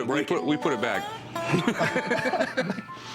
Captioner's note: laughter